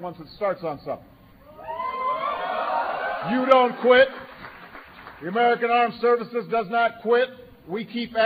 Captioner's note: applause